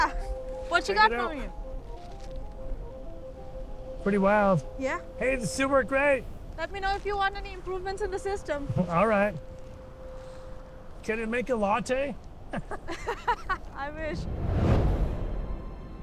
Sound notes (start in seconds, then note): 12.5 laughing